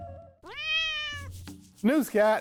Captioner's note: cat meows